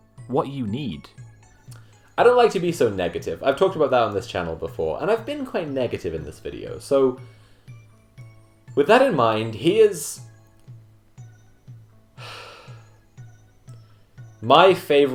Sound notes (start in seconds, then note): 9.5 long sigh